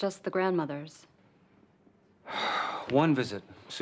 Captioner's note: sighs